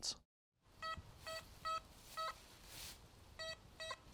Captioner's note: soft beeping